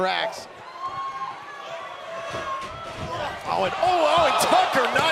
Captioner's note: crowd cheering